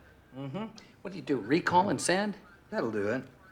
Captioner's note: scoffs